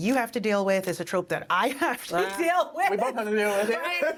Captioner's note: laughing